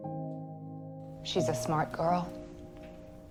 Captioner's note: voiceover